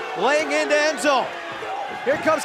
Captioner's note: cheers & boos